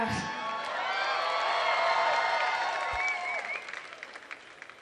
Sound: audience cheering

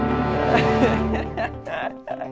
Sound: laughter

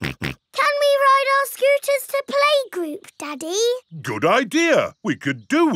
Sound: snorts

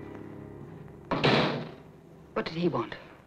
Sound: door shuts

